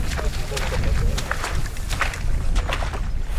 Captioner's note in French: clapotis des pas